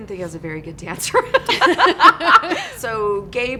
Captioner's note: laughter from both